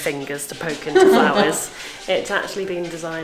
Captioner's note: laughs